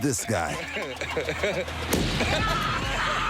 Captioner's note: explosion; laughter